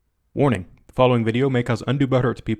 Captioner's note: voiceover